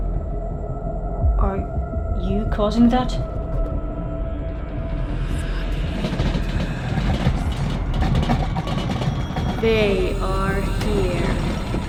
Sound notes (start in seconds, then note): 4.9 ghostly whispers; 6.9 furniture rumbles